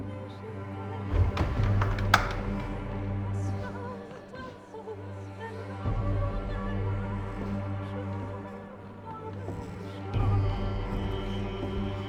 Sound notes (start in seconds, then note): 1.1 door thuds; 3.8 eerie music continues